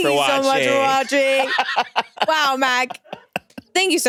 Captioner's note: laughs